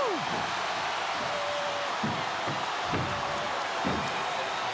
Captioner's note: audience cheering